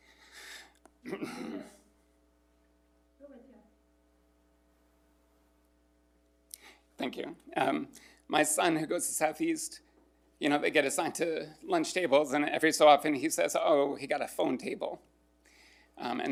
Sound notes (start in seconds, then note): 1.0 clears throat